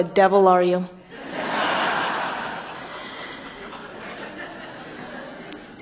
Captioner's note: laughter